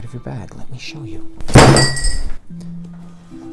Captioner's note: bag slams onto desk